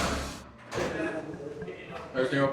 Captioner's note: indistinct shouting